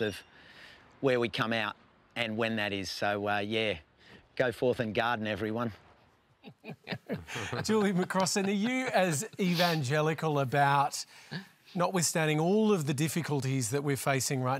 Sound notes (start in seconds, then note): 6.4 laughter